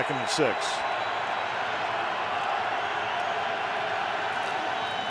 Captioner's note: cheering